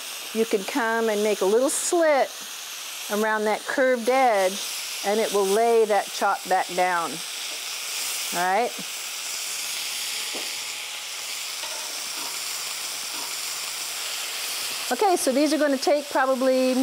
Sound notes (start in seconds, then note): 9.4 pan sizzling; 9.4 utensils clanking